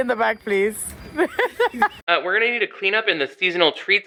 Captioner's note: laughs